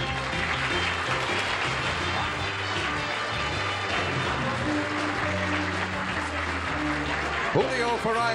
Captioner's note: applause